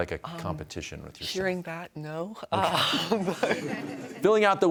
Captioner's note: audience chuckles